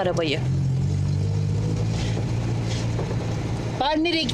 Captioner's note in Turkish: Araba sesi